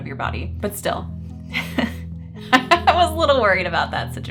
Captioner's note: chuckling